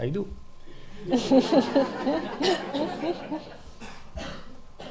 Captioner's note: laughing